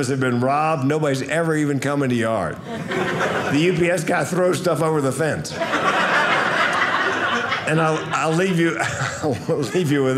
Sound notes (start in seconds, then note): 5.4 audience laughing